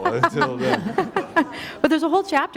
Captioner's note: laughter